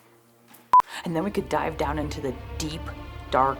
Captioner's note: suspenseful music plays; test tone beeps once